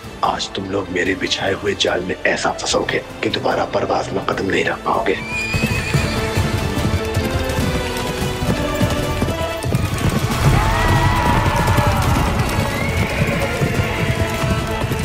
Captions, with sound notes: Today, you will fall in my trap in such a manner, that you won't be able to enter Parwaz again. [horse neighing] [horse galloping] [horse neighing]